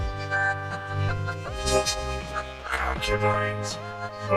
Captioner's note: giggling; girlish giggling